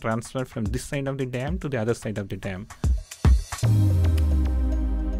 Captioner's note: voiceover